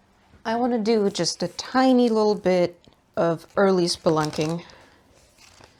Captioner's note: book pages flip